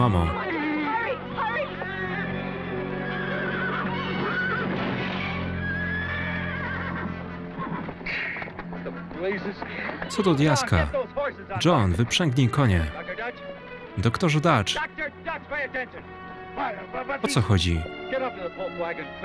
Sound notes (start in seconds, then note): 3.4 horses whinnying